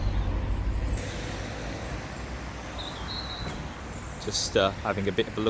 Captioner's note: street noise